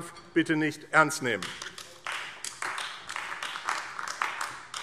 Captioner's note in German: Beifall AfD